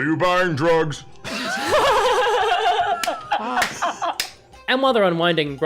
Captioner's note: laughter